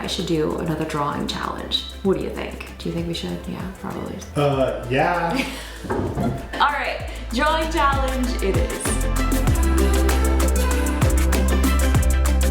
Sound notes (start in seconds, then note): 5.0 laughs; 9.8 upbeat music